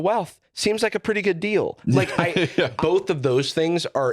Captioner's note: laughs